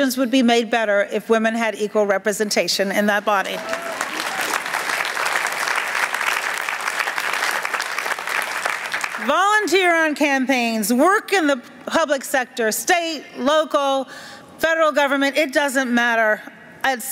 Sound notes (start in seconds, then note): 3.5 applause